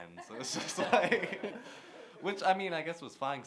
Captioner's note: laughter